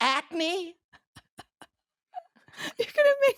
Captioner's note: laughing